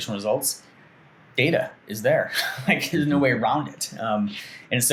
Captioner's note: chuckles